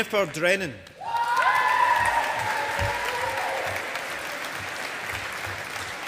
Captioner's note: audience applauding